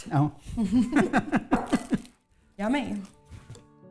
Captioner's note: laughing